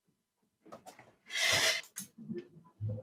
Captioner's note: she inhales